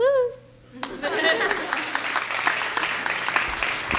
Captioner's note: clapping